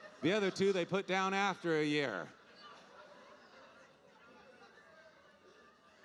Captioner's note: audience laughing